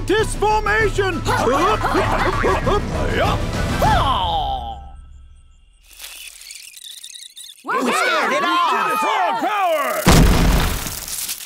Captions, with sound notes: Mantis formation! Hup, hup, hup, hup, hup! Hyah! [karate yell] [squeaking] We scared it off! We have power!